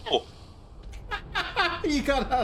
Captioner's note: laughing